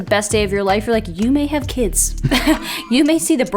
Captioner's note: chuckles